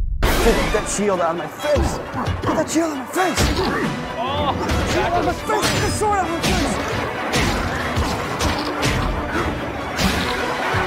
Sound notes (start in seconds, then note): 4.1 exclaiming, game sound effects